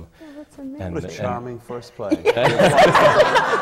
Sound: laughter

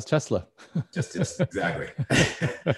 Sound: laughs

